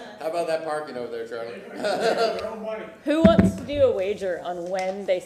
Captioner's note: laughter